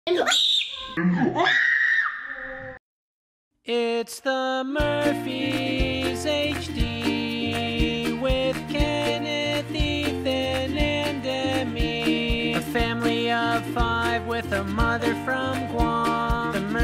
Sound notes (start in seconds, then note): 1.1 screams; 1.2 screams in slow motion